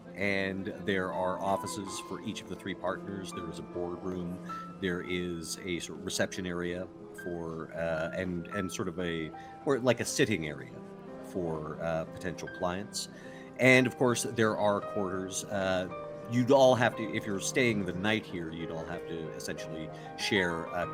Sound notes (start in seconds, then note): none